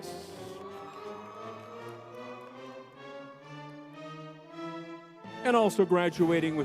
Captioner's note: crowd cheering